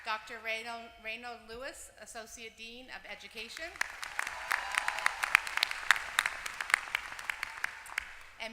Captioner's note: applause; applause